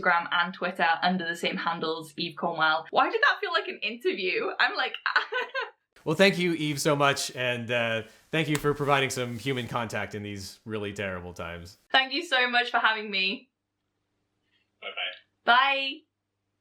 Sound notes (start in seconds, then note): 5.0 laughs